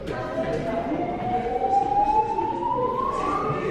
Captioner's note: alarm blares